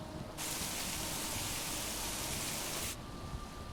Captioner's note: rain pelting